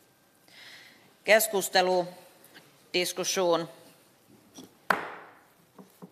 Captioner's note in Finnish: nuijan kopautus